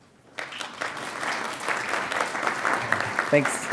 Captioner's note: audience applauding